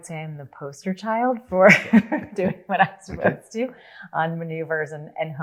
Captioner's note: laughs